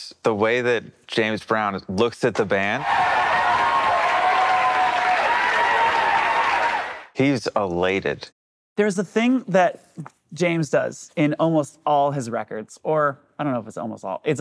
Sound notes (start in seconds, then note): 2.7 crowd cheering